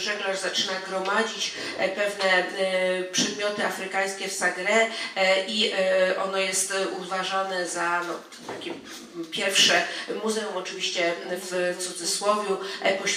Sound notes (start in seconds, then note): 3.2 speaking foreign language